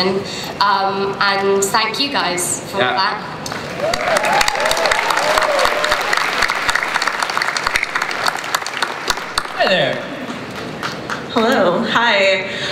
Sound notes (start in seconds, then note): 3.6 cheering, applause; 11.2 voiceover